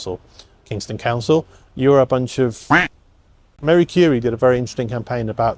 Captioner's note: quacks